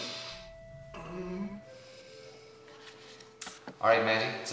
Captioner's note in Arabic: الشخير